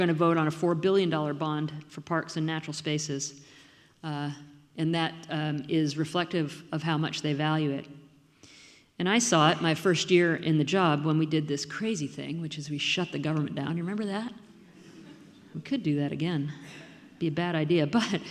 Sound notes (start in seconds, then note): 14.8 audience laughing